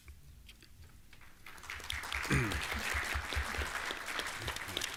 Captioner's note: applause